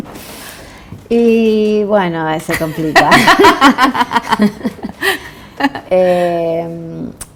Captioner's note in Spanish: risas